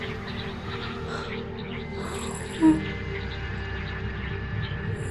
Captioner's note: Wendy moaning